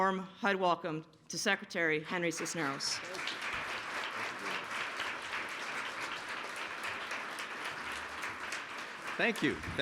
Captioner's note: applause